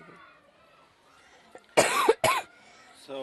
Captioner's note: coughs